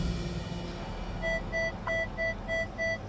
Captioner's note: device beeping